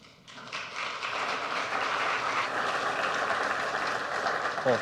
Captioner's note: audience applauds